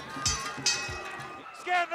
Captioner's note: bell ringing